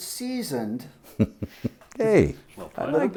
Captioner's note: chuckling